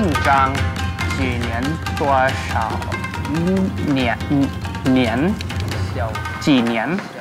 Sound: speaking Chinese

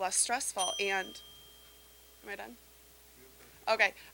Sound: bell dinging

